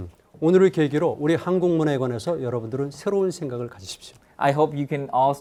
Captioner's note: speaking in Korean